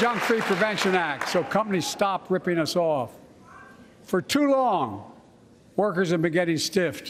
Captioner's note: applause